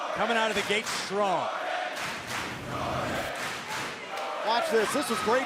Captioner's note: crowd cheering